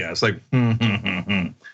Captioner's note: laugh